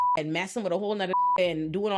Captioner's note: beep